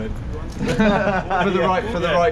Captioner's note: both laugh